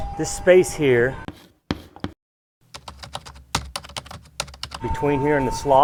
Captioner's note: letters tapping